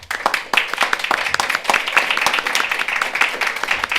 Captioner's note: all applaud